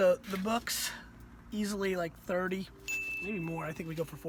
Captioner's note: bell dings